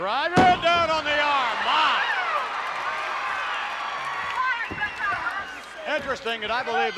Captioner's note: applause